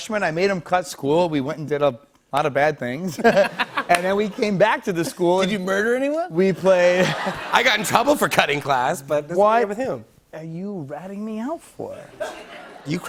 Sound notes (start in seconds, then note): 3.1 light laughter; 6.9 laughter